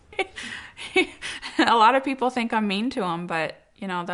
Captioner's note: laughs